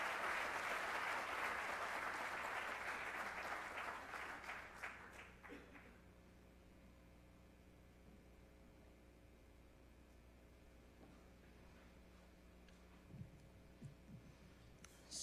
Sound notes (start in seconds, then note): 4.7 applause